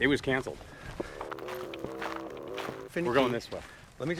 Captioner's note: footsteps crunch